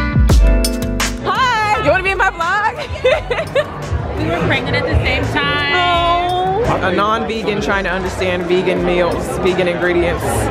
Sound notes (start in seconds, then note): 1.8 laughs